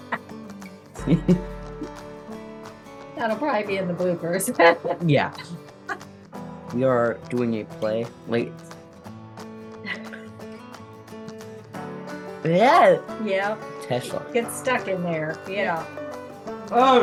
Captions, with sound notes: see. that'll probably be in the bloopers. yeah. we are doing a play late [chuckle] yeah yeah Tesla get stuck in there yeah oh